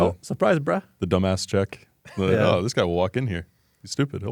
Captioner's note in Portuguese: risos